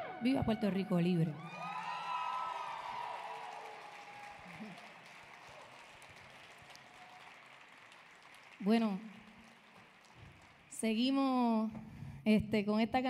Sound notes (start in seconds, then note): 0.2 speaking in Spanish; 1.3 audience cheering; 1.4 audience applauding